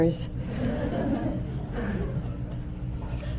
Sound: laughter

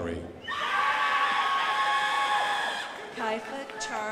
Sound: crowd applauding

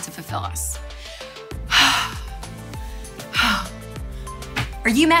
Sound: sigh of relief

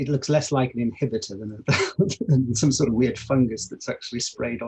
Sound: laughs

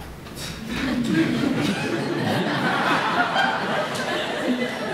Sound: laughter

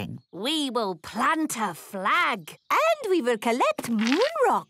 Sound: none

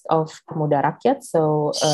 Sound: speaks in foreign language

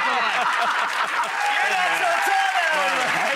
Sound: laughs

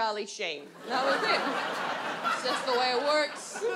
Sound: audience laughs

